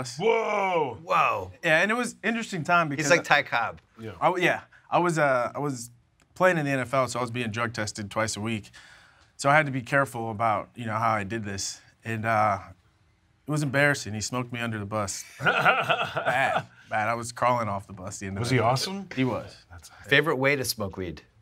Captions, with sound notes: -Whoa! -Whoa! And it was an interesting time-- He's like Ty Cobb. -Yeah. -Oh yeah. I was at-- I was playing in the NFL, so I was being drug tested twice a week, so I had to be careful, you know, about how I did this. It was embarrassing, he smoked me under the bus. (LAUGHS) Bad. I was crawling off the bus. -Was he awesome? -He was. Favorite way to smoke weed?